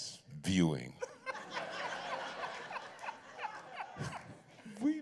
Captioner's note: laughter